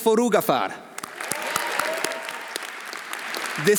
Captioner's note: audience applauding; audience cheering